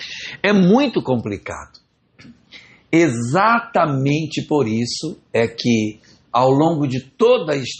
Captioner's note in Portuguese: limpando a garganta